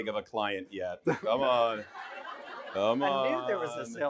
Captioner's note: laughing